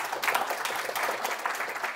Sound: applause

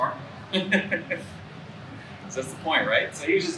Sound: laughs

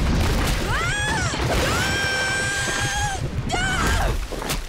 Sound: screaming

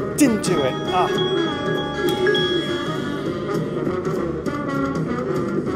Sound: bells ringing; exciting swing music

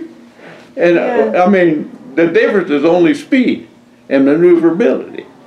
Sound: laughs

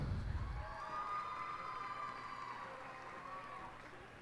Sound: cheers and applause

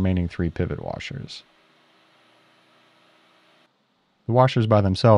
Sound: lathe machine whirring

